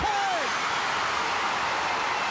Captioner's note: crowd cheering